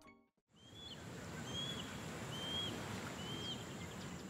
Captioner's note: birds chirping